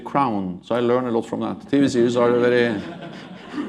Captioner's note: laughter